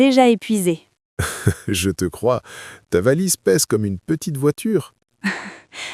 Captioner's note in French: rire; rire